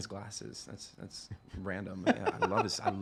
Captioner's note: laughing